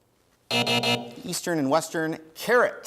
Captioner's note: buzzer sounds